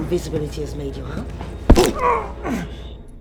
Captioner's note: bone cracks